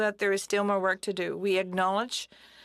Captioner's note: speaking french